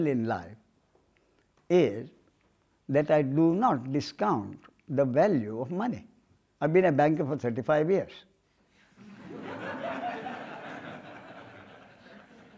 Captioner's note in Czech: smích